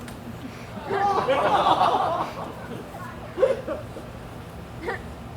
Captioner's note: audience laughs